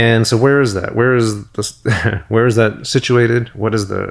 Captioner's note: chuckles